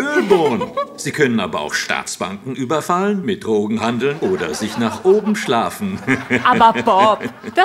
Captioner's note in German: lacht